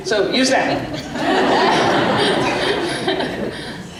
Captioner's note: laughter